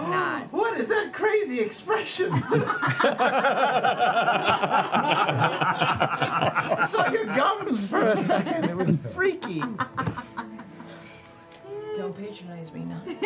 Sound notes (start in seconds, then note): 2.2 laughter